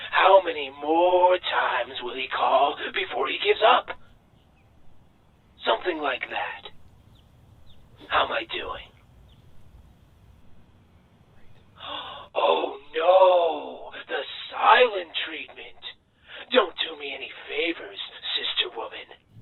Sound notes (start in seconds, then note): none